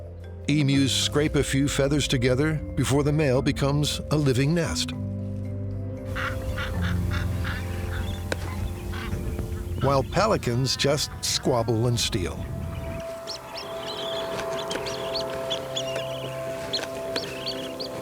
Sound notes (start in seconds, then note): 6.2 pelican squawking; 13.7 pelicans chirping